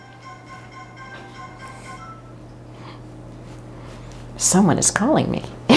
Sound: phone ringing

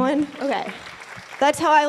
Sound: applause

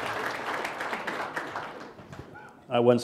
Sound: applause

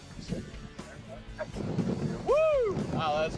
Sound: wind rumbles

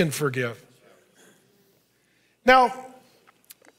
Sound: congregation speaking faintly

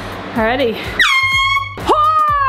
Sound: air horn blaring

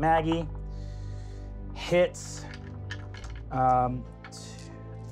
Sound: rolling dice

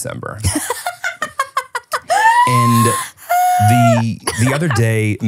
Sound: laughs

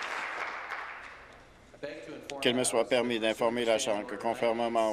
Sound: applause

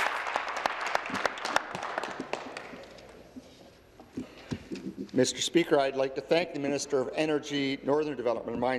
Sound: applause

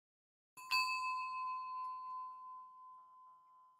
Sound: bell rings

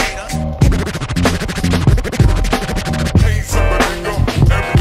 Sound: record scratching

